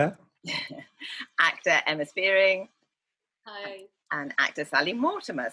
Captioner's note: laughs